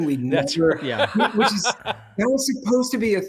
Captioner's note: they laugh